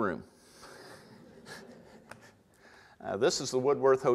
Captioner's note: audience laughter